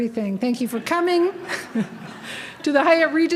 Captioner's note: laughter